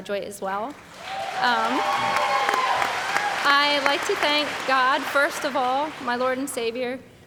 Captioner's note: background Applause